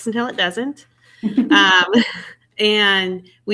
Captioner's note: guest laughs